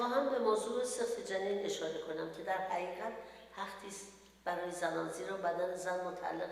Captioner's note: speaks in foreign language